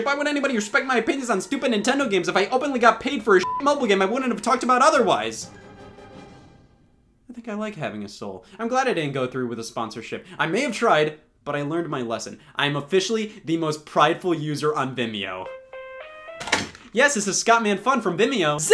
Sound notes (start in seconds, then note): 3.4 beep; 15.4 phone rings